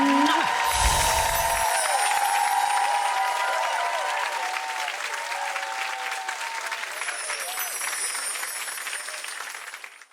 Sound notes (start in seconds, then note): 0.2 crowd cheers and applauds; 6.9 bells ringing